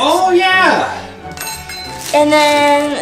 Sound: piping nozzle clattering

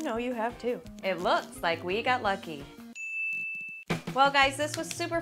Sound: ding

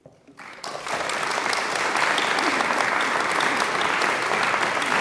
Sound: audience applauding

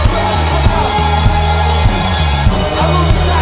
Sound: audience cheers

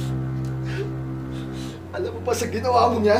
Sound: sobs

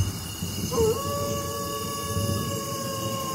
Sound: wolf howls

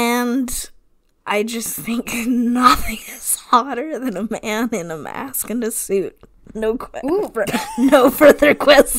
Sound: laughing

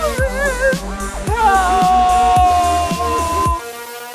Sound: crying

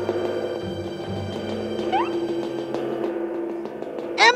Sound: tapping

